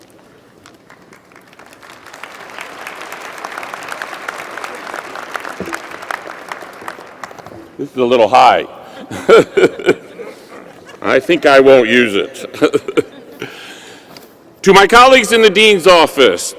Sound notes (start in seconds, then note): 7.7 applause